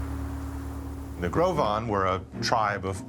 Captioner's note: wind howling